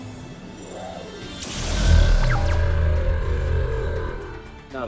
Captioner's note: cyber dragon roar